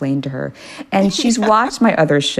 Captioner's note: laughter